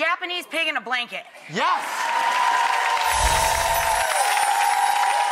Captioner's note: audience cheers